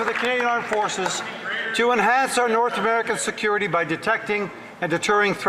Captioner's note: some Applause